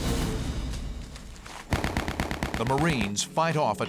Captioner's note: gunshots